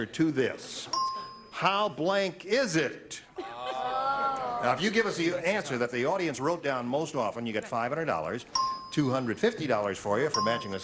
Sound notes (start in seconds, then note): 0.9 beeping